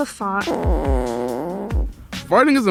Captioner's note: A little cheeky, non-offensive, fart